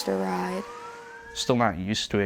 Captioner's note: siren wailing